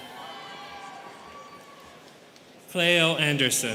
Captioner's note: students cheering